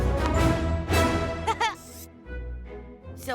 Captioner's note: intense Classical music; Cozmo laughing